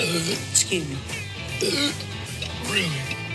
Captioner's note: burps